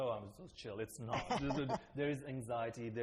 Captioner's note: laughter